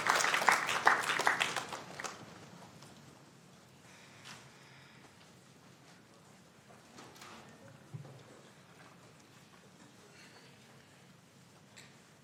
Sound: applause

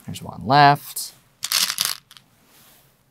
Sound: stones rattling

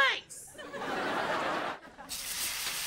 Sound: audience laughing

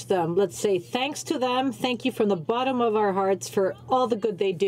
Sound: speaking french

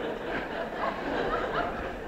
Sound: laughter

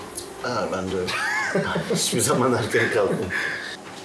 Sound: both laughing

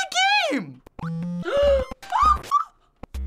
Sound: gasps

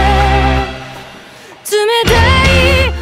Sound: inhales

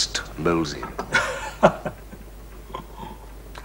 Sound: Bunny chuckles

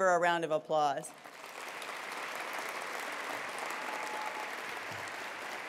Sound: attendees applauding

